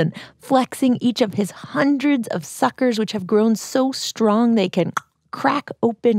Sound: with a click of the tongue

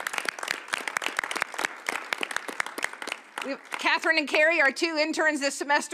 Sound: applause

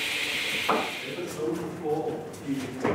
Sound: echoing voice

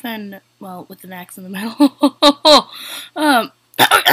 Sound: laughter

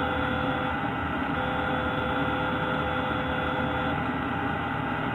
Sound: unknown alarm

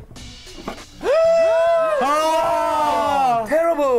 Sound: band exclaims

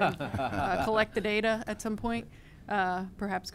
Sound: laughter

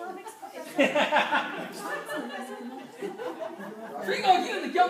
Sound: group chattering; laughing; speaking foreign language

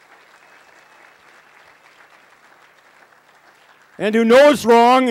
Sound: applause

